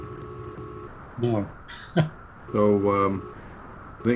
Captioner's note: laughing